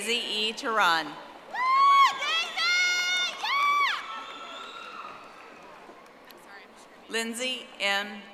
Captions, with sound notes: Daisy E. Turan. (audience applauding)